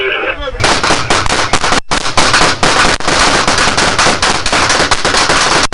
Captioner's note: guns firing